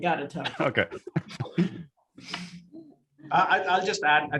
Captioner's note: group laughs